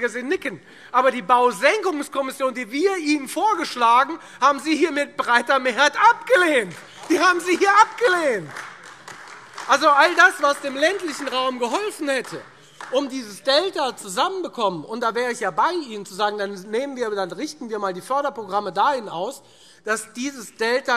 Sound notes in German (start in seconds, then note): 6.4 Beifall